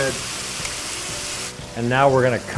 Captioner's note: sizzling